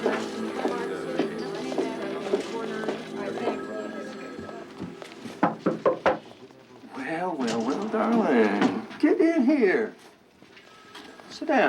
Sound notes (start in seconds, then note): 3.6 phone ringing; 5.8 loud knocking